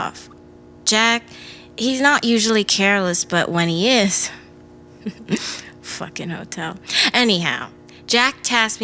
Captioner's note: chuckles